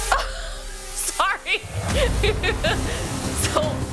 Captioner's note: laughs